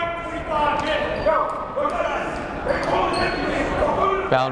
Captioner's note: yelling